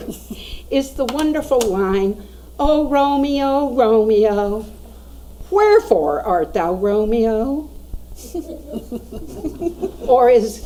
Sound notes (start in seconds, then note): 8.2 audience laughs